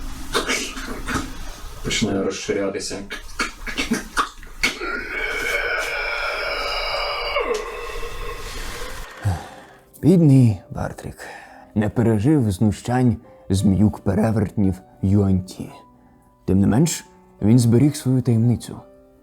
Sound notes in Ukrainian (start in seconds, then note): 0.1 моторошні звуки ворушіння мертвого; 4.8 більше моторошних звуків; 6.5 вдох мерця